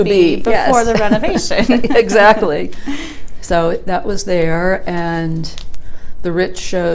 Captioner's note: laughing